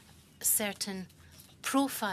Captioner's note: speaking French